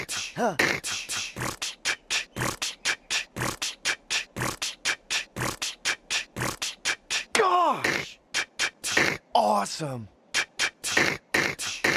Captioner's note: HAROLD beatboxes